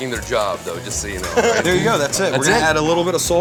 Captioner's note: laughs